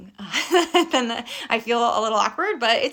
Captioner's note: laughing